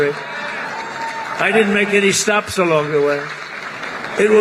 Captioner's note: applause